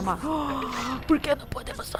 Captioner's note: dramatic sigh